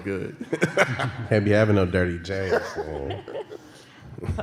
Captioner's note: laughter